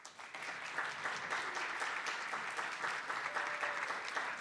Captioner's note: attendees applauding